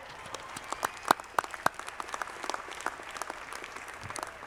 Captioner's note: audience clapping